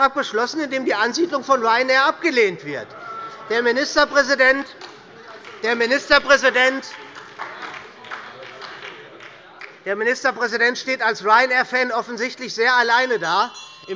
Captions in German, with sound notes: in dem die Ansiedlung von Ryanair abgelehnt wird. [Heiterkeit und Beifall bei der SPD und bei Abgeordneten der LINKEN] Der Ministerpräsident steht als Ryanair-Fan im Land,